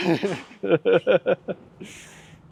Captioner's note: laugh